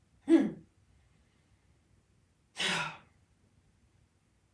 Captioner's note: grunts